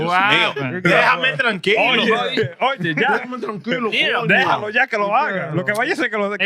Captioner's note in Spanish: Hablando en idioma extranjero